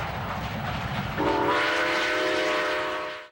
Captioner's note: steam whistle